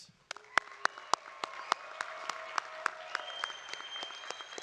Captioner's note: audience applauding